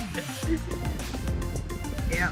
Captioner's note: laughter